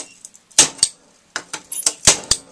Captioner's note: ka-schonk